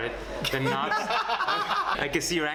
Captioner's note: laughter